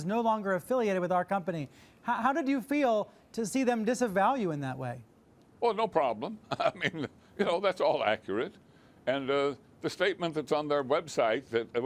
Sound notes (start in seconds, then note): 6.4 chuckles